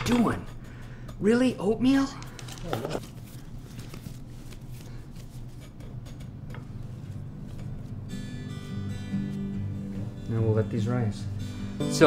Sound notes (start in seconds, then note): 2.8 sound of dough kneading; 6.1 patting; 7.7 uplifting guitar music